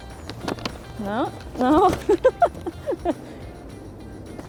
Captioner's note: laughs